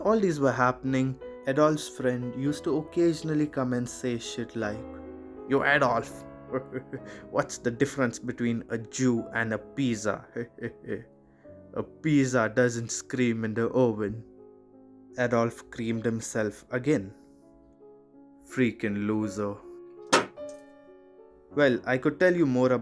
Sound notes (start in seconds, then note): 6.5 huhuh; 10.3 huhuh; 17.1 spit